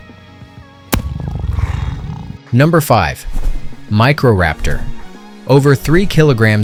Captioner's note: cat purrs